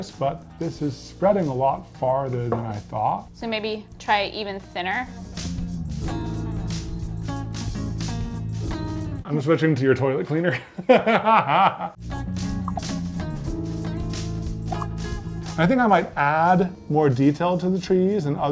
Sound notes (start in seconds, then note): 6.5 gentle music; 13.5 laughing